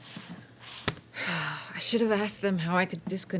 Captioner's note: sighs